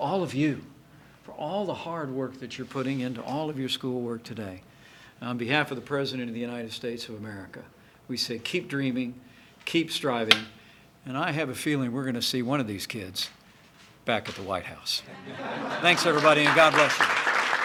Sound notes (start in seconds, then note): 15.1 laughter